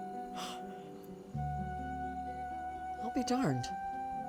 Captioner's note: june yawns